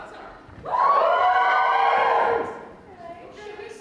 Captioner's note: audience cheers